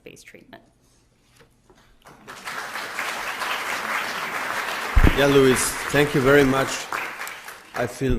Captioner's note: audience claps